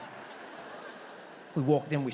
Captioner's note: audience laughs